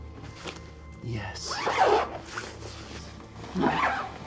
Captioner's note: zipper rasping